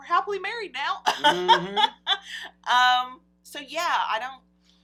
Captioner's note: laughs